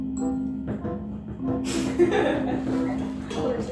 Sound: laughs

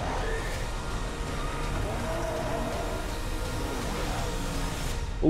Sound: motorcycle engine roars; music suddenly stops

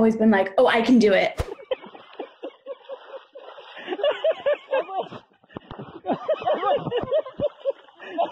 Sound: people laughing

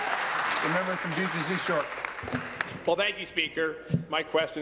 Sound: applause

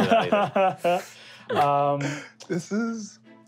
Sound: laughing

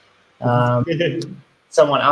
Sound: laughs

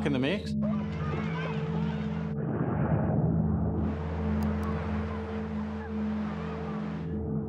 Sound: underwater noises mixed with people chattering

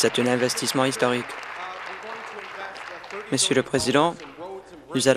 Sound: applause

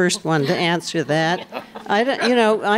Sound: laughter

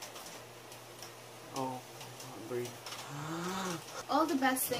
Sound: takes in much needed breath

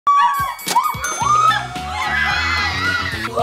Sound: bell ringing; cheering

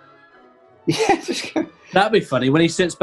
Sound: laughing

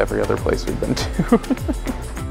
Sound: laughs

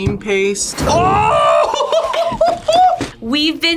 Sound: laughs

